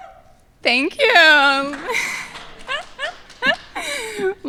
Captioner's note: laughing